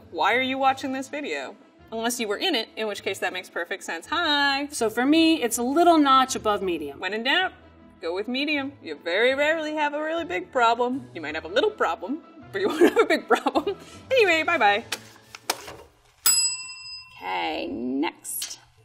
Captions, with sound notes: why are you watching this video? Unless you were in it, in which case that makes perfect sense, hi! - So for me, it's a little notch above medium. - When it doubt, go with medium. You very rarely have a very big problem. Might have a little problem, but you won't have a big problem. Anyway, bye bye! [bell ringing] - Okay, next!